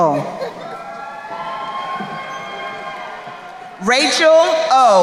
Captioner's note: crowd cheering